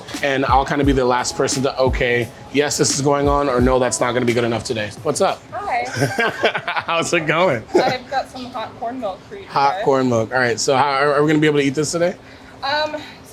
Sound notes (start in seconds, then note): 5.8 laughing